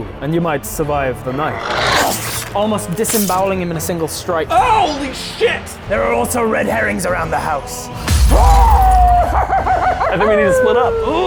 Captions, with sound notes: and you might survive the night Almost disembowelling him in a single strike Holy shit! There are also red herrings around the house *AWWOOOOOOOOO OWW OWW OOOW OOOOOW* I think we need to split up